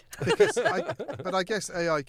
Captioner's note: all laughing